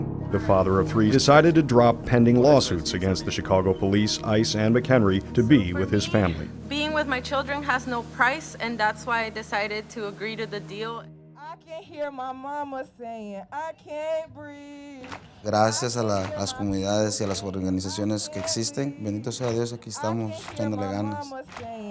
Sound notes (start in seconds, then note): 11.2 crowd chants